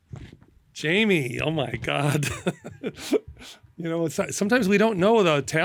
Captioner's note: laughter